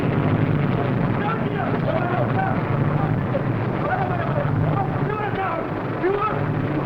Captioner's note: group excitedly chattering in foreign language